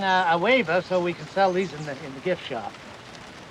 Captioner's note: none